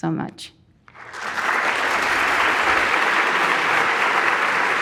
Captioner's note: audience applauding